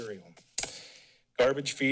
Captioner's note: smacks lips